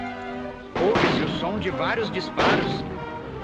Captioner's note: gunshots